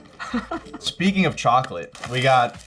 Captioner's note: laughs